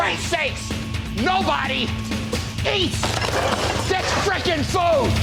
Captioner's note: dishes clattering